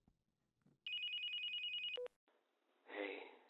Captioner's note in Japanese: プルルル…